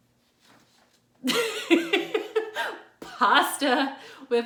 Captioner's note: laughs